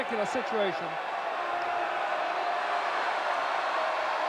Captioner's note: audience cheering